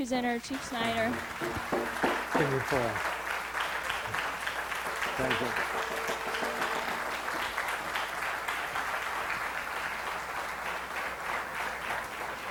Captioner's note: audience applause